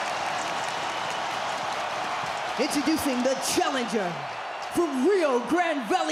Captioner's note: applause